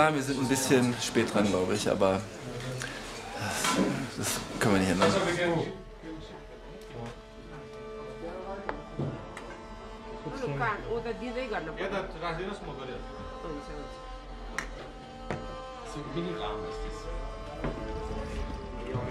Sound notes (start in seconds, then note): 11.3 tibetan; 18.6 tibetan music